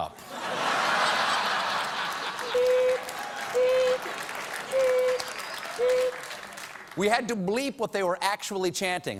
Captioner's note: laughter